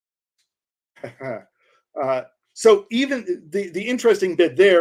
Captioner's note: laughs